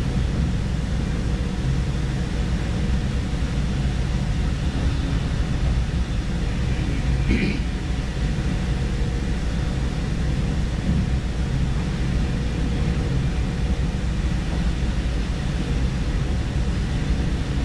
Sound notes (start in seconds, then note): 7.2 clears throat